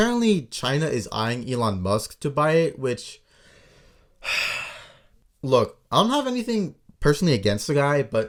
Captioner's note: sigh